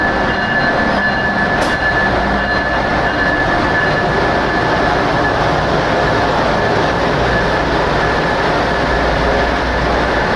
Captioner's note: Acela Express horn; Acela Express powering up